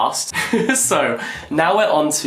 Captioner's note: laughs